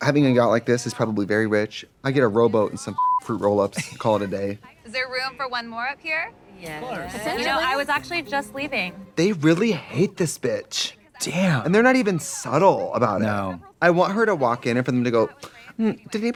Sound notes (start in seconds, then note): 2.9 beep